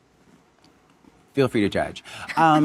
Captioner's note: Monica and audience laughing